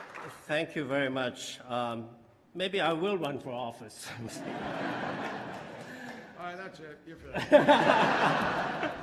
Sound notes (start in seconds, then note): 0.0 applause; 4.1 laughter